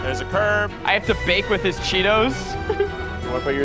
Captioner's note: laughs